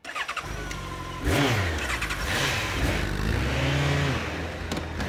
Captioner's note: revving